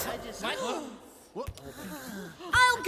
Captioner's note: kobolds hushed whispers of surprise